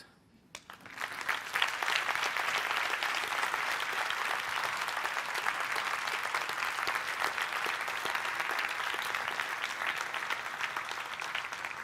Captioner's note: applause